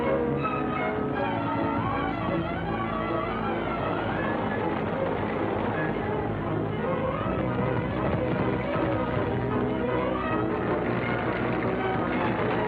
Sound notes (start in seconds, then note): 1.0 music intensifies; 4.7 wagon rattling; 7.4 horse galloping; 7.4 intense music